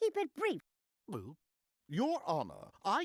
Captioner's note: gulping